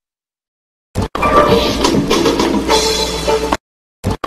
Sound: whooshing and music

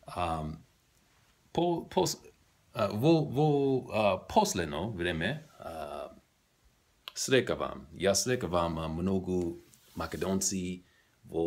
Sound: macedonian

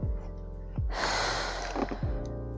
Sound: sighs

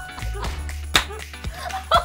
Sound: clap !!

